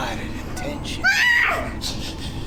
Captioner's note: woman screams